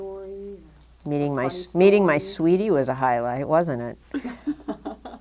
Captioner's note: laughter